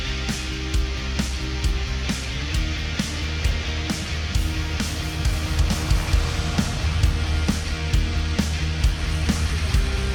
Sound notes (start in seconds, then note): 3.5 car engine revving; 7.4 upbeat music